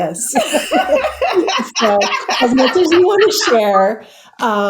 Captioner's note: laughs